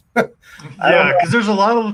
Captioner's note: chuckles